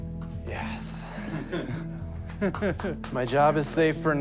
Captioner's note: chuckling